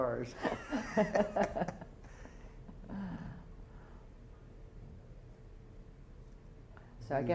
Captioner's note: laughter